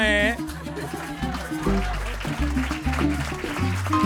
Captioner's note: applause and cheering